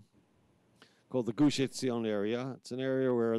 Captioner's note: speaking in foreign language